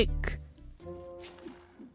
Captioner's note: clunk